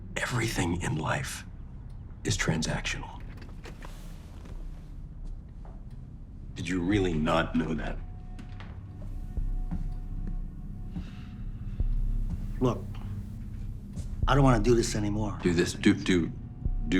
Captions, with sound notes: Everything in life is transactional. (deep tense music) Did you really not know that? (footsteps clicking) - Look, I don't wanna do this anymore. - Do this, (stammering) do what?